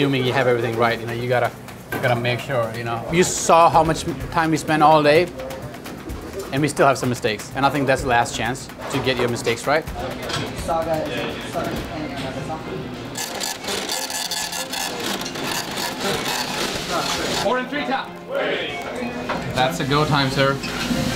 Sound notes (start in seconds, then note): 10.7 employees chattering